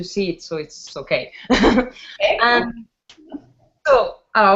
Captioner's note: laughs